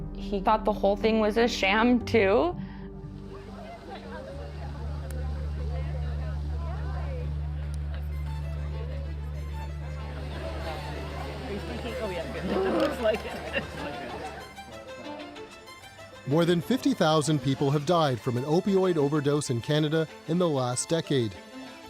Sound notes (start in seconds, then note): 3.8 indistinct chatter; 8.6 frenetic violin music; 12.2 chatter continues